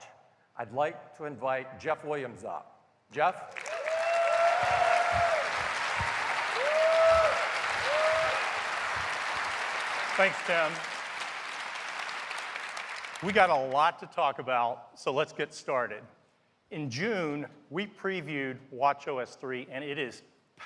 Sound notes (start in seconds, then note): 3.5 cheers and applause